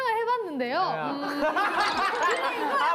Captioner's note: laughing